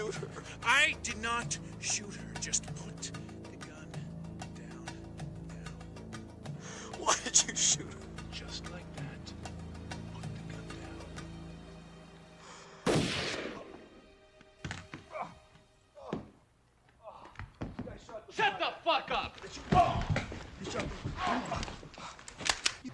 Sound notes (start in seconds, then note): 12.8 gun firing; 18.3 man yelling